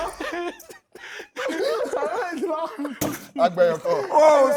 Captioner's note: laughs